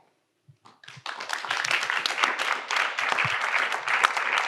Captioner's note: audience applauds